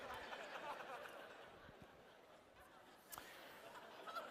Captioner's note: laughter